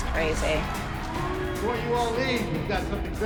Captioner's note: audience booing